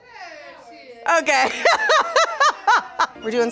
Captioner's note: laughs